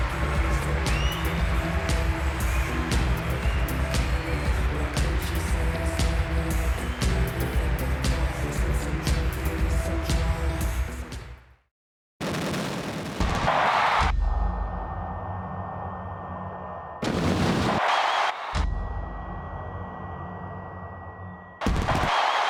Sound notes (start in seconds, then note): 12.3 fireworks roar; 13.2 audience cheering; 16.8 fireworks roar; 17.0 audience cheering; 21.6 audience cheering; 21.7 fireworks roar